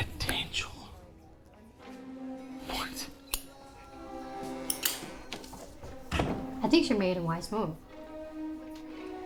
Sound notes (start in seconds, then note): 4.9 doors creak